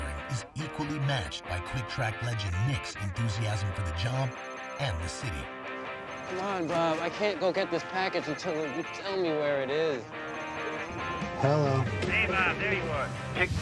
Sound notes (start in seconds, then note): 5.8 cell phone rings; 10.9 ring